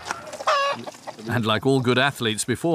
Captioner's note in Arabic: نقيق الديك